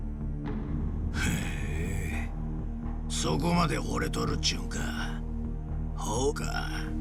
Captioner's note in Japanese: ため息